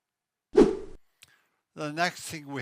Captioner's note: screen whooshes